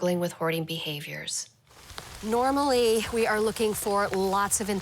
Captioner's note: rain pattering